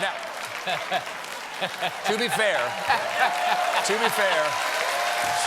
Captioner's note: applause